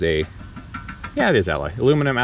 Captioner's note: metal tinkling